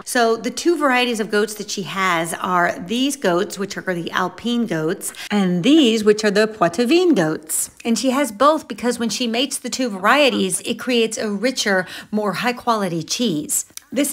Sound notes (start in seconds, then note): 6.5 speaking in foreign language